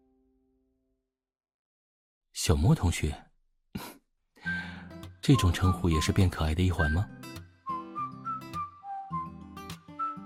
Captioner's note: chuckles